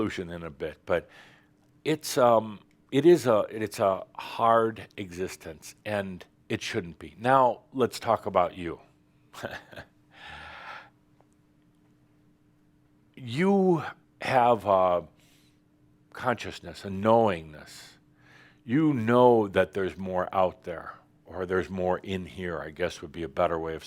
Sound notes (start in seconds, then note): 9.3 Adamus chuckles